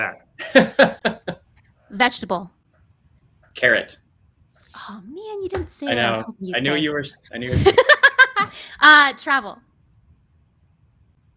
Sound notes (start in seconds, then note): 0.4 laughs; 7.5 laughs